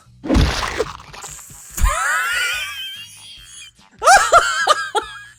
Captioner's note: wheezes; hysterical laughter